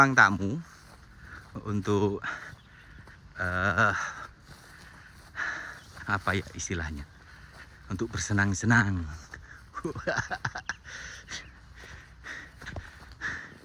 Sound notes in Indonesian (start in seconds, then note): 9.3 tertawa